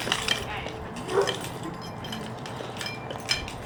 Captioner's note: wheelchair rolling; dogs barking